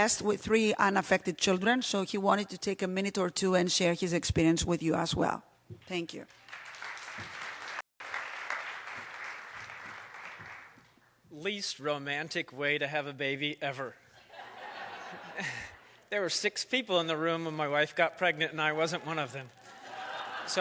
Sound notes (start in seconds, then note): 8.0 applause; 14.1 laughter